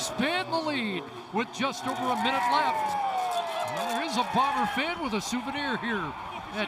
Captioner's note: whistle